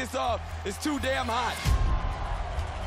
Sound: crowd shouts

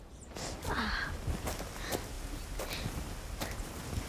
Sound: wincing

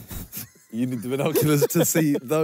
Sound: both laughing

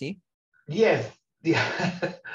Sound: chuckling

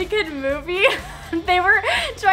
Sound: laughs

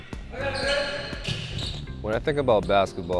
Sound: shouting

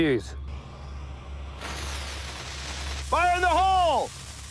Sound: fuse crackling

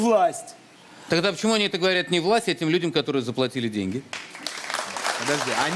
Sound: applause

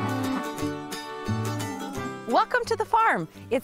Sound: cows mooing

